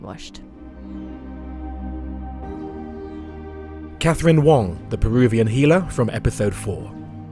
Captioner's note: voiceover